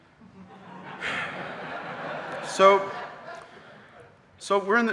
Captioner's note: audience laughing